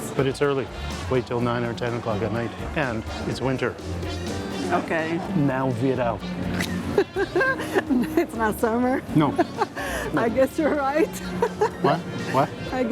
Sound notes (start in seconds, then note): 5.8 in Portuguese; 6.4 laughs